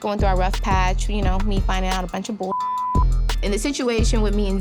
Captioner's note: beep